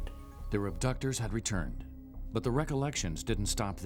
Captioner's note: voiceover